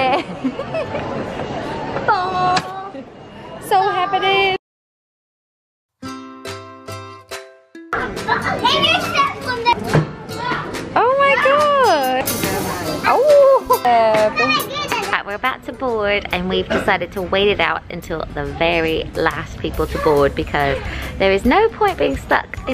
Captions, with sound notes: - Three (laughing) - Four, five. - It's all happening! (kids shouting) - Oh my gosh, oh. Right, we're about to board, and we've decided to wait it out until the very last people to board, because there is no point being stuck